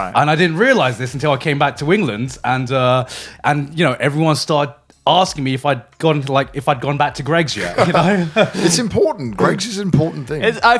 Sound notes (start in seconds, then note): 7.5 chuckles